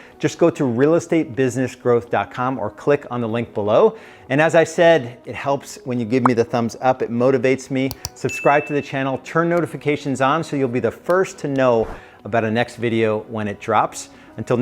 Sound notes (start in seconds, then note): 7.9 computer mouse clicks; 8.2 bell rings